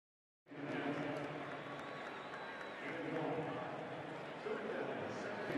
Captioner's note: pa announcement